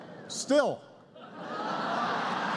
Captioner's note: laughter